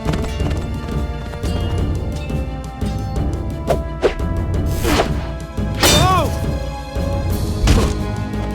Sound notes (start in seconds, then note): 5.9 N00bly grunts, then yells